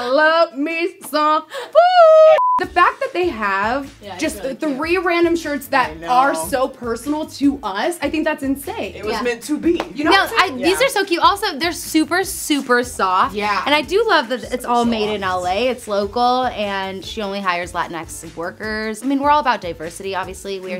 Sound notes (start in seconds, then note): 2.4 beep sound